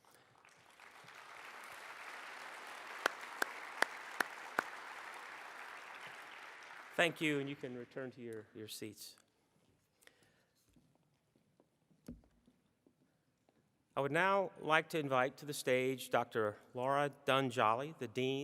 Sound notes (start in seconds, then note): 4.5 applause